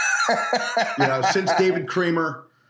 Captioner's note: laughter